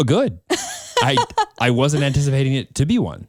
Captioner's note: laughs